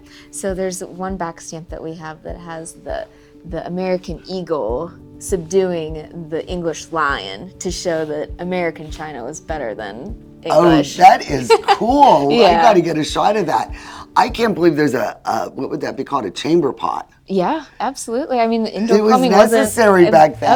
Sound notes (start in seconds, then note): 11.2 chuckles